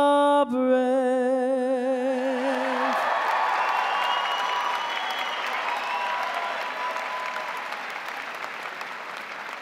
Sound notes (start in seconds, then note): 2.1 crowd cheering; 2.2 crowd applauding